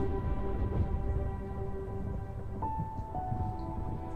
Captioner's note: soft piano music; thunder rumbling